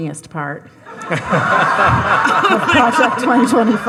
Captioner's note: all laughing